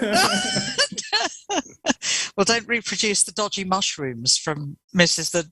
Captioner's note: laughter